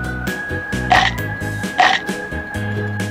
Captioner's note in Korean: 쓱쓱싹싹